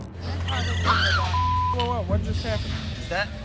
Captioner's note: bar patron screams